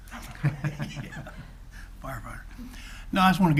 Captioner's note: all laughs